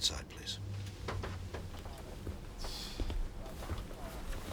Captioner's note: exhales